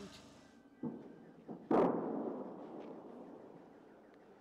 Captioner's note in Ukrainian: артилерійський вибух